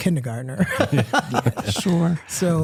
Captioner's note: laughter